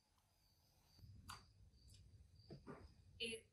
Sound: sounds of crickets and the night

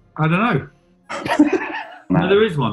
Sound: laughing

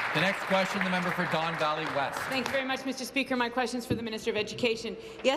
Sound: applause

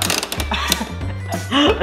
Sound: clicks

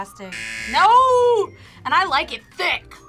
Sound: buzzer

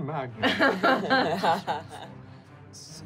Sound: laughing

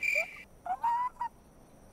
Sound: crickets; whimper

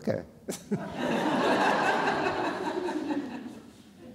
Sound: all laughing

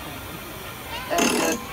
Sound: crank noises

